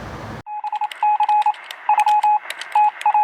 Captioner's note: beeping